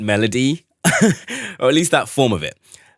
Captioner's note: laughs